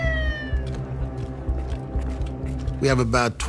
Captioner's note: sirens